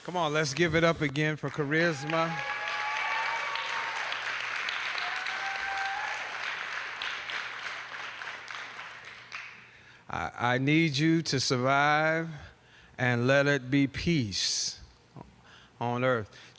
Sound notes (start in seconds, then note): 1.3 applause